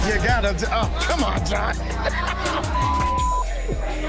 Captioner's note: laughs